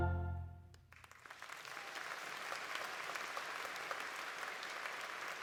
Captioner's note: poignant music continues; singing in French continues; audience applauding